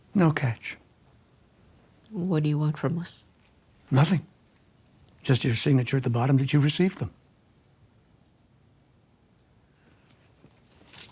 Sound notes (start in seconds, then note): none